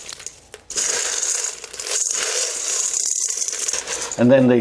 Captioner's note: corn kernels crushing into metal bowl